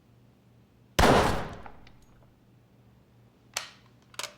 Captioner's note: gunshot echoing